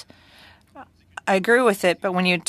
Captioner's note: speaking French